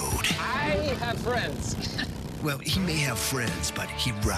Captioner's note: chuckles